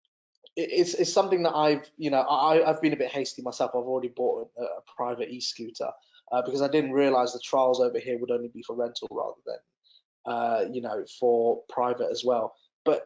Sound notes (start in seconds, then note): none